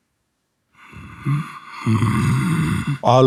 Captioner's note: Vecna growls